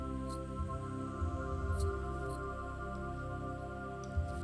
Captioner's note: mouse clicking continues